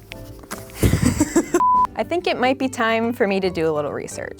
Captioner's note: laughs